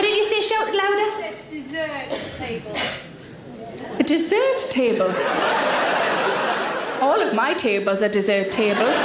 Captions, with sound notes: What did you say? Shout it louder. - I said, "Dessert table." - A dessert table. (audience laughs) All of my tables are dessert tables.